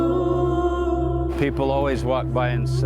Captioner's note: chanting